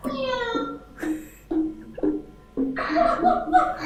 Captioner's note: laughing; bot laughing